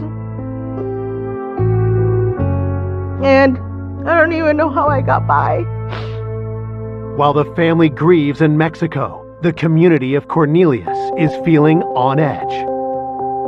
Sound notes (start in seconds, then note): 0.2 dramatic music; 5.8 sniffles